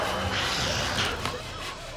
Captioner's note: snarls; plonk!